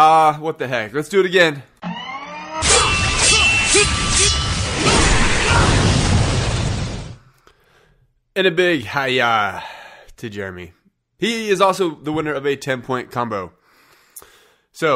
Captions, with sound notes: Ah, what the heck. Let's do it again. (metal clanking) (Ninjas grunting) And a big "hi-yah" to Jeremy. He is also the winner of a 10-point combo.